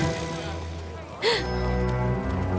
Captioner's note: gasp